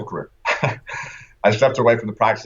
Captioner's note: laughter